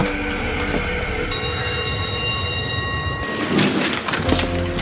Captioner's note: Sună clopoțelul școlii